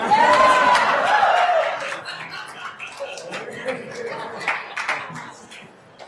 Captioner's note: attendees applauding and cheering